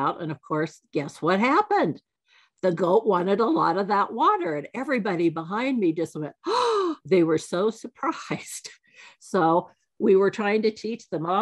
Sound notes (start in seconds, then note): 6.5 gasps